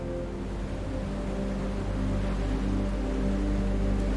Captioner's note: waves crashing